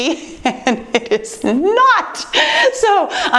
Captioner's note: chuckles